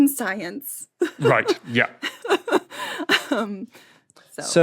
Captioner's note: laughs